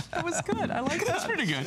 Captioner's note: laughter